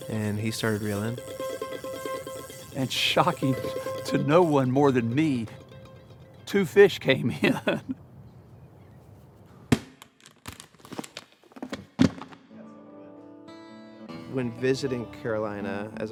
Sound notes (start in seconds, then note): 0.0 reeling quickly; 7.3 chuckles; 10.0 case clicks; 12.5 gentle guitar playing